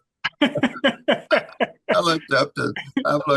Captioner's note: laughing